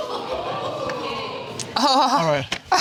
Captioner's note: audience exclaims